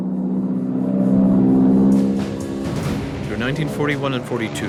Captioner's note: jet engine roaring